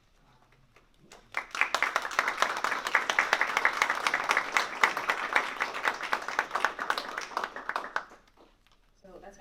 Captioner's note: applause